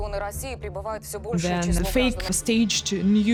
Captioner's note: speaking Russian